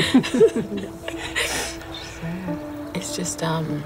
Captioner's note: laughs